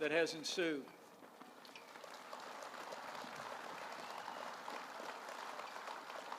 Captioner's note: applause